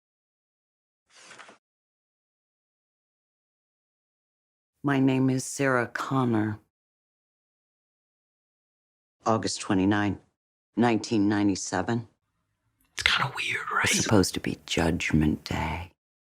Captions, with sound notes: My name is Sarah Connor. August 29, 1997 - (whispering) It's kinda weird, right? - Was supposed to be Judgment Day.